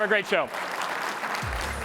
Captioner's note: applause